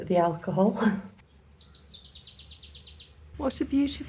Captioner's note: birdsong; laughing